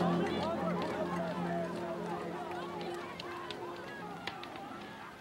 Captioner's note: fire crackling